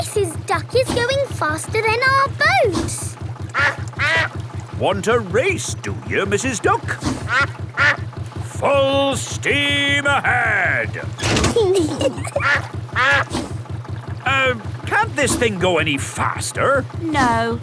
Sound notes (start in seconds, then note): 3.4 quacks; 7.5 quacks; 11.0 level clangs; 11.6 kids giggling; 12.1 quacks